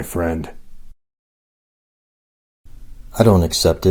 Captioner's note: silence